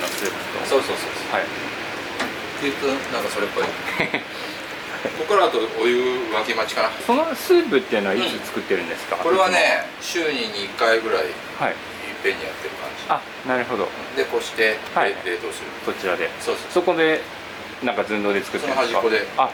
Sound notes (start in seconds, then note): 3.8 laughs